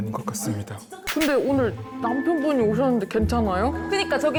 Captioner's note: suddenly reminded sound effect